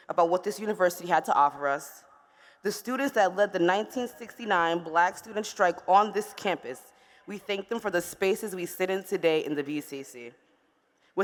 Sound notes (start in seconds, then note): none